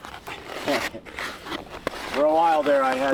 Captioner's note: chuckling